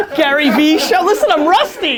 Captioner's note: laughter